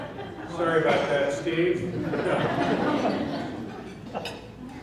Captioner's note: laughing; laughing